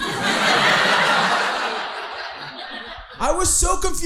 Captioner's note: audience laughing